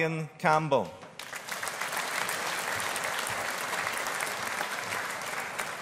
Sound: audience applauding

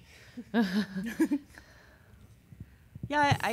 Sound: chuckling

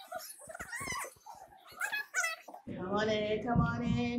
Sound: tape squealing

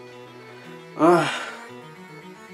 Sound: sigh

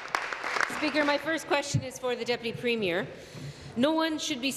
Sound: applause

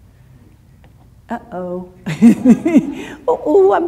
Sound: laughs

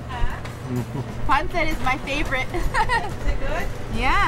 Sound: giggling

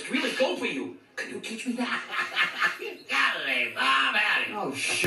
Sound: Slinky laughing

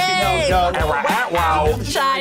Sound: both mimic record scratching

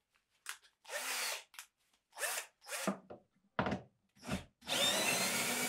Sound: screwdriver whirring

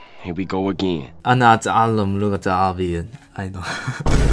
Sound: Arabic

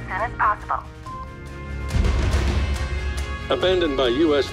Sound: phone beeps

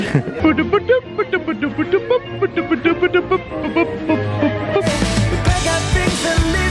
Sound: humming

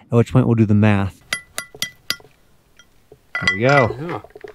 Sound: hammer clinking

